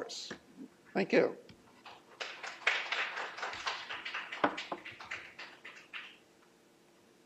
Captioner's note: applause